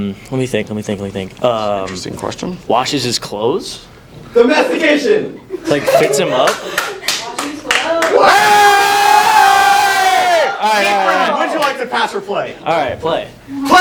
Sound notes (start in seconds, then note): 5.6 laughter and clapping; 9.0 red team cheering